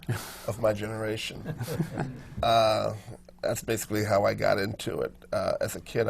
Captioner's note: laughter from the panel